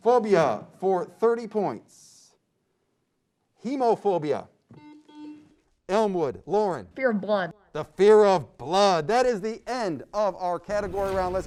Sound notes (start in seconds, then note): 4.7 beep